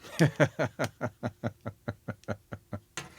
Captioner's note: laughing